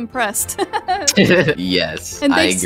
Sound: laughs

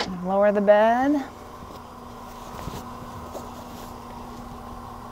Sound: bed whirring

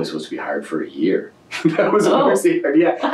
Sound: laughs

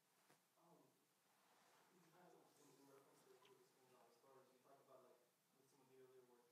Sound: audience member 3 speaking faintly

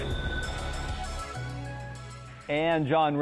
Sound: crickets chirping

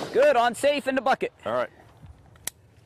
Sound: gunshots

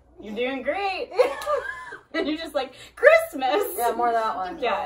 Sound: laugh

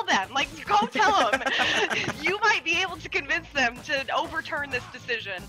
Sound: laugh

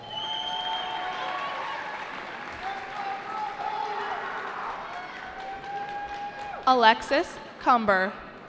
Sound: cheering

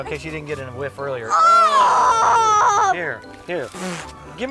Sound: both groaning

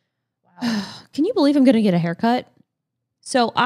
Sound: sighs

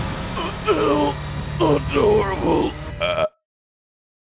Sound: grunting; burp

